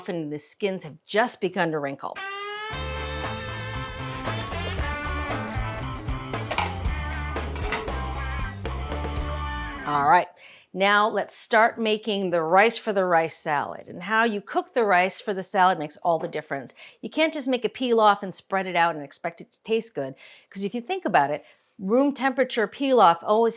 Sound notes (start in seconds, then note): 2.2 lively music; 7.5 lid clatters; 9.2 slow cooker beeps